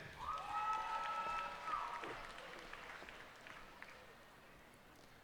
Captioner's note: cheers and applause